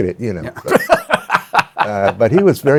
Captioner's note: laughs